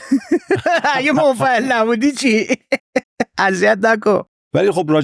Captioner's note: laughs